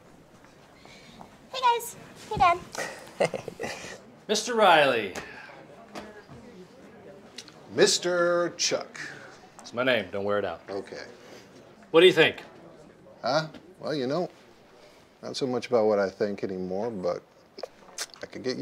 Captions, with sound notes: - Hey guys, hey dad. - Hey. (laughs) - Mr. Riley. - Mr. Chuck. - That's my name, don't wear it out. - Okay. - What do you think? - Huh? Well, you know, not so much about what I think anymore, but I could get used to it.